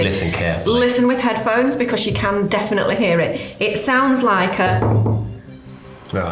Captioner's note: taps on table